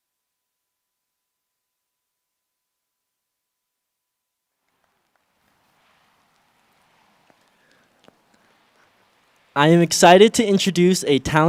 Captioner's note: applause